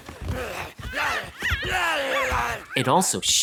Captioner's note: Yuki & Ame grunting, growling